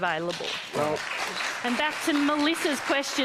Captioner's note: applause